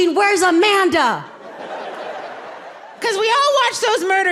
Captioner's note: audience laughing